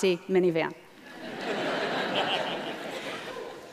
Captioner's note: laughter